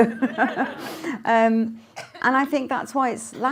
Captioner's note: laughter